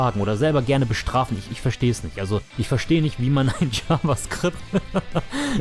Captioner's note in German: haha